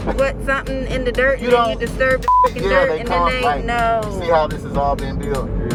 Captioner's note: beep